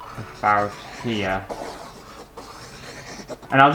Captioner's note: pen Scraping On Canvas